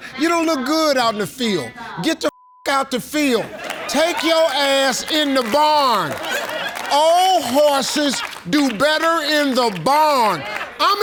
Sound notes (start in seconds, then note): 2.3 beep; 6.1 audience laughs